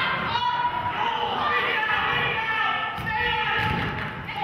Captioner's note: coach hollering